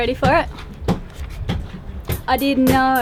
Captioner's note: homemade beatbox